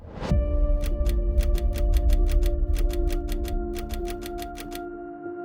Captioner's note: ticking-style typing